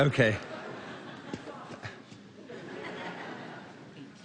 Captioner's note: laughter